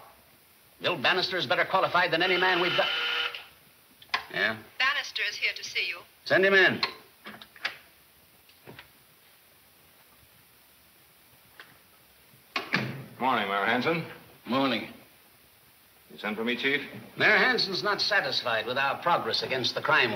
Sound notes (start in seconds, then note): 2.0 intercom buzzing; 4.5 woman On Intercom